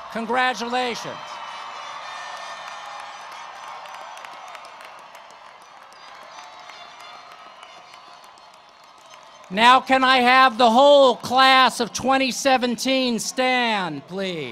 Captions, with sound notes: Congratulations. [ Cheering and Applause ] Now, can I have the whole class of 2017 stand, please?